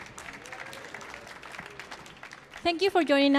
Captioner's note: audience applauds